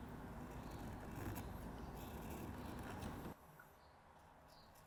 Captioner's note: tool scraping